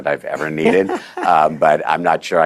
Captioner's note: laughter